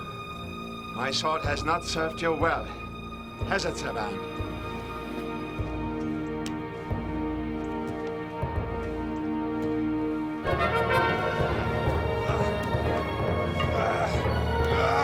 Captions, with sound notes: - My sword has not served you well, has it, Savann? (grunting)